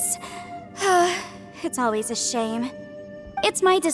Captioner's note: sigh